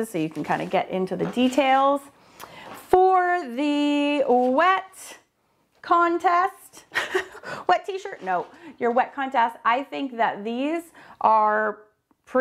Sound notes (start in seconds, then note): 7.1 laughs